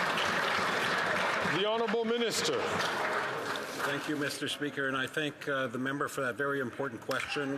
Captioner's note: some Applause